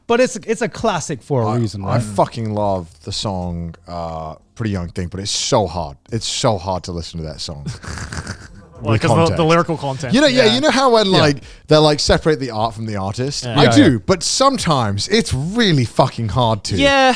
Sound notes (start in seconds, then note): 7.8 burping